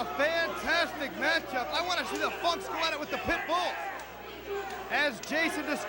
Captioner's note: crowd chatter